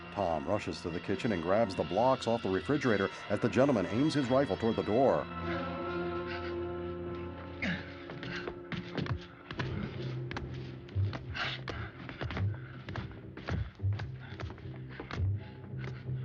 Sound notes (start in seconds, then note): 7.6 grunting